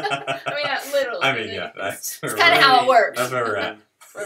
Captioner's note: laughter